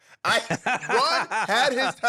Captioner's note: laughing